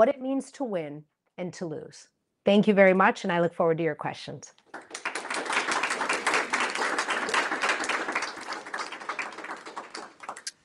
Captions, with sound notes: it means to win and to lose? Thank you very much, and I look forward to your questions. [APPLAUSE]